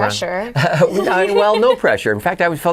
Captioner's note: laughing